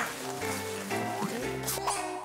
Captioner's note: struggling